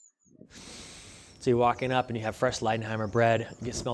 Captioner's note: inhale